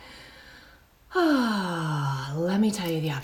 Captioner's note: sighs